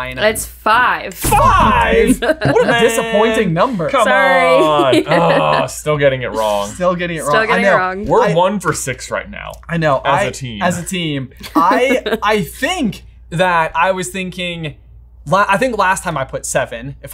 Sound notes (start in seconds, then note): 3.8 laughing; 4.8 laughs; 5.2 groans; 11.4 laughing